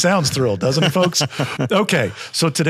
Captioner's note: laughs